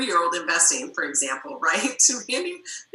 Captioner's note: murmurs